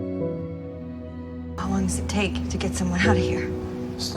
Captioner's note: voiceover